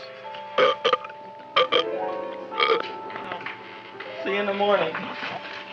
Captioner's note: Audrey belching